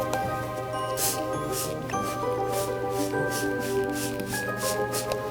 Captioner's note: bottle spraying